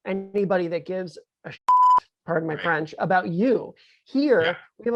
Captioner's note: beep